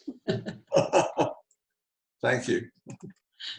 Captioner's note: chuckles